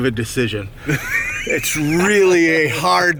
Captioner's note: laughing